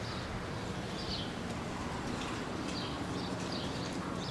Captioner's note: birds chirping